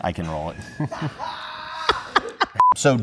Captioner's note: laughter